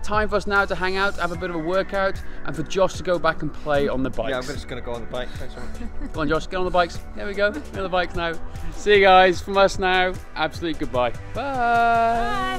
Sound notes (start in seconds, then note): 5.2 laughter; 7.2 laughs